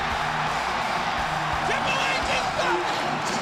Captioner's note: audience cheering